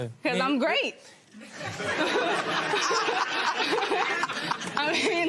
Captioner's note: laughter